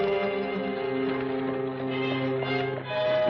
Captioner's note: horses trotting